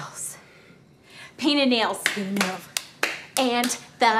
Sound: hands clapping

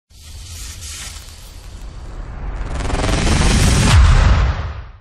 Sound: digital electrical vibrations

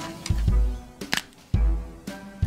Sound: neck Snaps

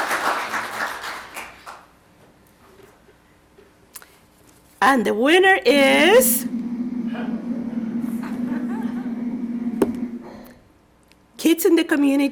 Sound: applause

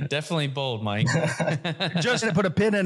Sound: laugh

